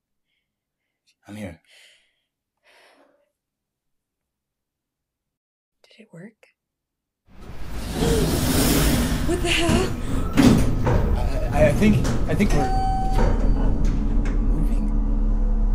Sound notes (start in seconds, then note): 7.4 machinery turning on; 12.7 elevator ding